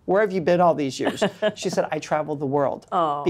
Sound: laughs

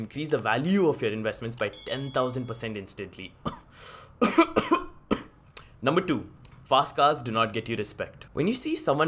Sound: cough

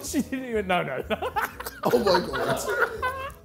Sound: Sidemen laughing

